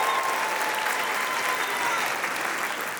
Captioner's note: applause; cheering; whistle; applause